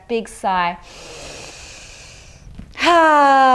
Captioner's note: inhales deeply